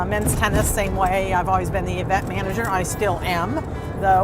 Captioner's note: none